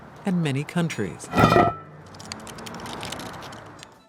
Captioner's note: cast iron clangs